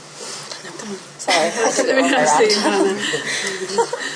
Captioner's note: laughter